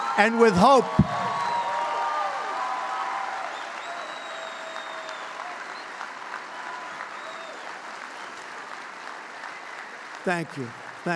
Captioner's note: applause